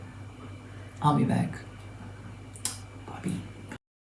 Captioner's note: whispers